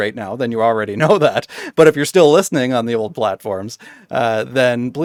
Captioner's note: laughing